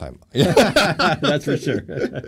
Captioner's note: laughing